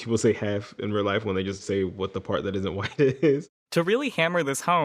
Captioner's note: laughter